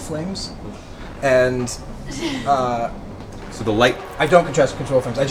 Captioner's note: pff